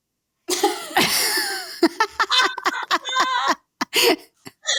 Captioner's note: both laughing